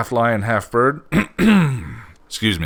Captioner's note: coughs